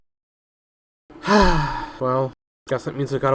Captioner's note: sighs